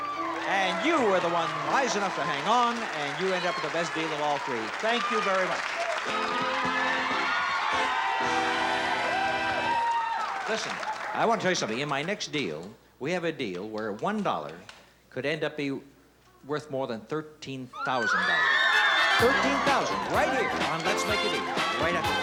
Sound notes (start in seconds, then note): 6.6 cheers; 17.7 screaming